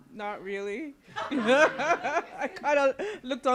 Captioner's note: laughter